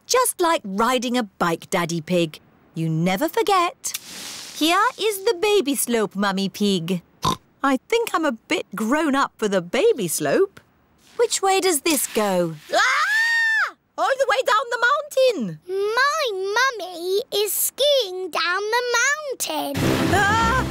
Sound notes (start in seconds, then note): 7.6 snorts; 12.6 shrieks